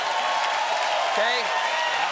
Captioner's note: cheers and applause